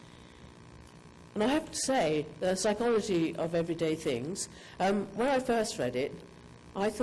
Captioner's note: none